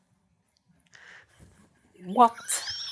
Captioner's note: laughs hysterically; laughter